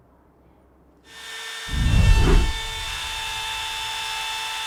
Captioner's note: machinery buzzes